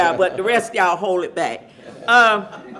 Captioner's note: laughter